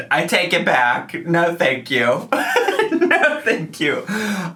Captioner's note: laughing